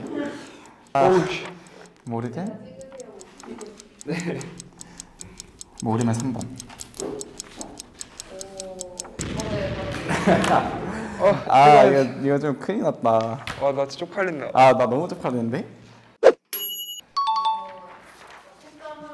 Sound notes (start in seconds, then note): 9.3 pen click